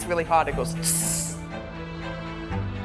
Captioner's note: hisses